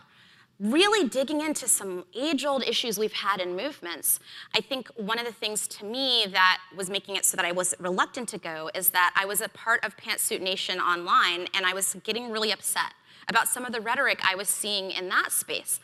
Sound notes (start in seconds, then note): none